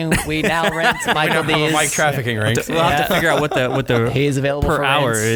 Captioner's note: laughing